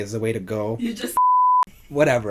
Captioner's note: beeps